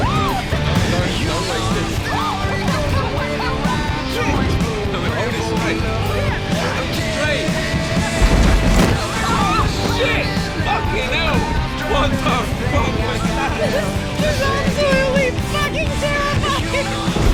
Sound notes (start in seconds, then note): 0.0 singing; 2.0 laughing; 8.5 yelping